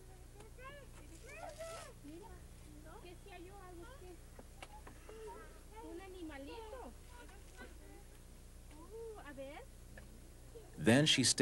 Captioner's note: people talking